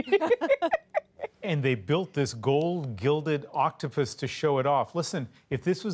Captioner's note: laughter